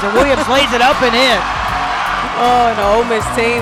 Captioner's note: cheers